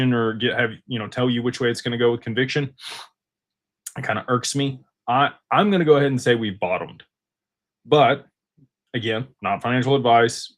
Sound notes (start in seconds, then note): 3.6 snorts